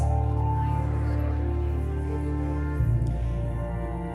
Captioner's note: group muttering